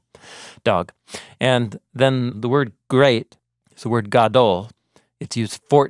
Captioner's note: speaking in Hebrew